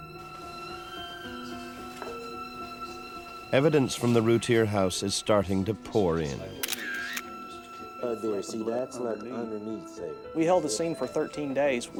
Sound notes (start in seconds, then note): 0.0 tense music; 6.6 camera clicks